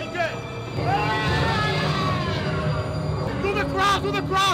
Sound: screams

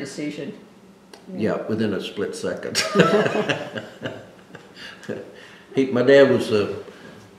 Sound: laughs

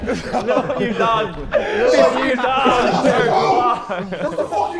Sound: Sidemen laughing

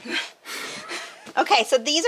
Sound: laughing

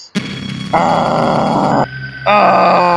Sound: groans

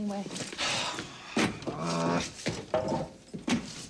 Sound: sighs

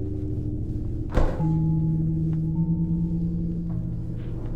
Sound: ominous music continues; doll thuds

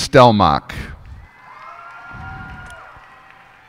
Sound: cheers and applause

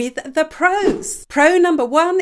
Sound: image whooshes

